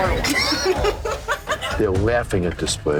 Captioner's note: laughter